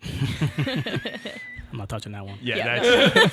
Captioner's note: all laughing